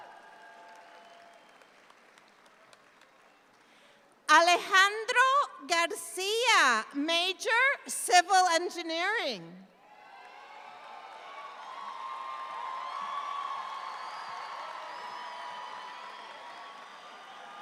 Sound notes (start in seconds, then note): 9.9 audience applauds